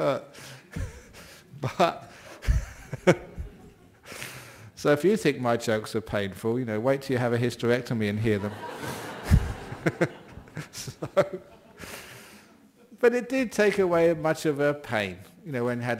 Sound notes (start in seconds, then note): 2.1 laughing; 8.3 laughter